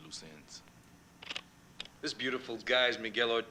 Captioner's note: slide projector clicking